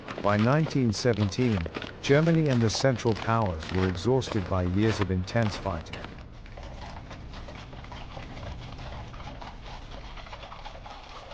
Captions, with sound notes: By 1917, Germany and the Central Powers were exhausted by years of intense fighting. [hooves clopping]